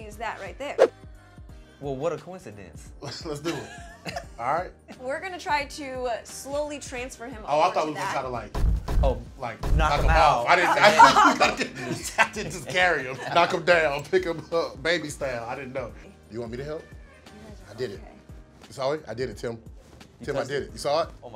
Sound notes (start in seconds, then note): 3.5 laughs; 6.7 wall booms; 10.8 laughs